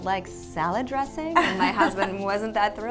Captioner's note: laughs loudly